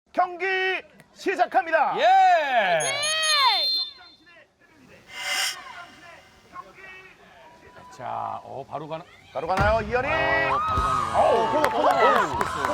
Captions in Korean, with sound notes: -경기 시작합니다. -파이팅. -(호루라기 소리) -바로 가나요? -바로 가나요, 이현이. -바로 가네요.